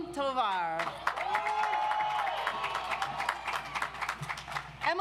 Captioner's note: audience applauds